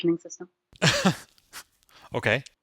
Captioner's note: laughing